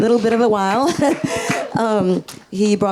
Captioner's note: laughs; audience cheering